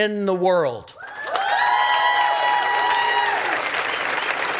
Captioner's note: cheering and applause